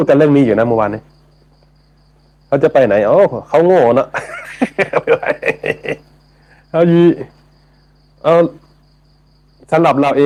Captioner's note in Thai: เสียงหัวเราะ